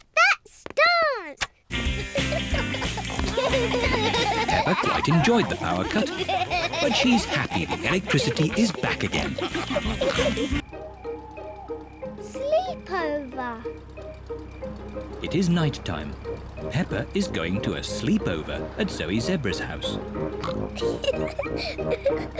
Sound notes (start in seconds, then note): 9.7 all giggling and snorting; 20.1 oinks and giggles